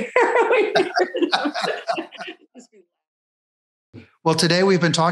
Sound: laughing

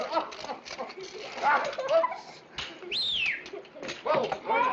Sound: laughs; whistles

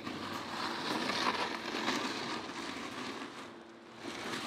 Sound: gravel crackling

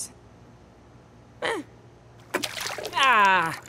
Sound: splash

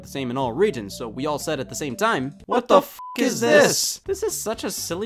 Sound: beep

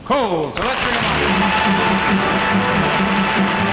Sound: audience applauding

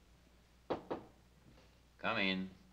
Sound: door knocking

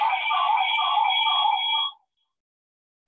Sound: feedback

